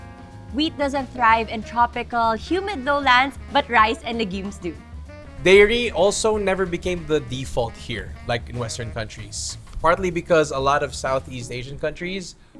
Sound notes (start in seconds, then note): none